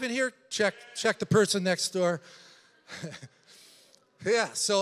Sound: laughs

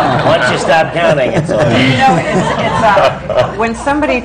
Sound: laughter

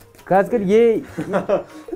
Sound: laughter

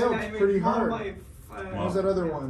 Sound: murmuring

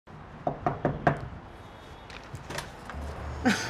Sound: knocking sound

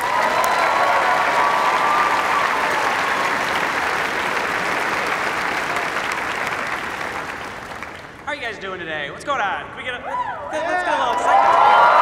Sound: cheers and applause

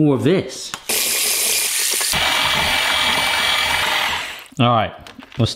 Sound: blender whirring

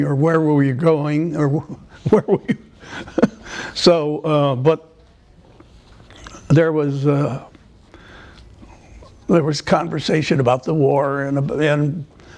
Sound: laughter

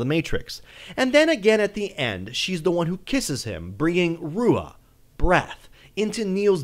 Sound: breath

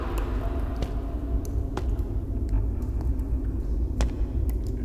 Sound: water drips

